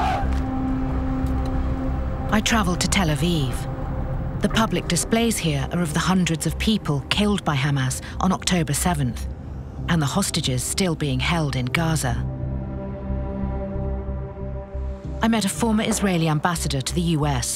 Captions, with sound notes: I traveled to Tel Aviv. The public displays here are of the hundreds of people killed by Hamas on Oct. 7, and the hostages still being held in Gaza. (knocking) I met a former Israeli ambassador to the U.S.,